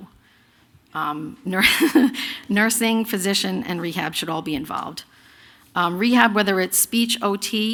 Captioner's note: laughter